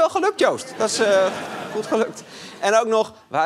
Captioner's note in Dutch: gelach